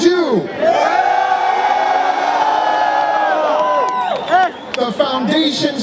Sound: cheering

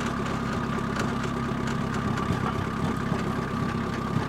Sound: engine and hissing

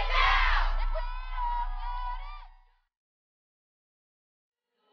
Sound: crowd screaming

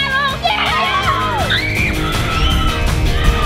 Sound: shouting; upbeat rock music

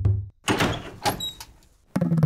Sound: door opens

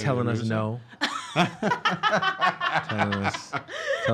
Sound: laughing

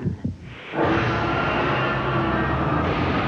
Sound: T-Rex roars

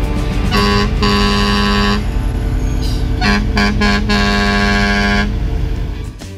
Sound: truck horn

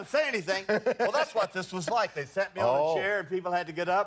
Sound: laughter

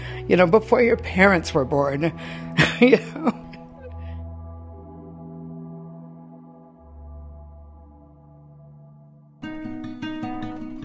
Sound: laughs

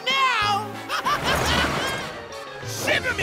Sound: laughing

